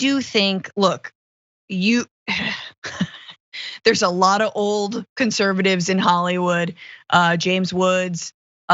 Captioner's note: laugh